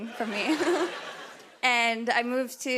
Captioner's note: laughter